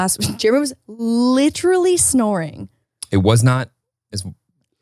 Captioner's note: snorts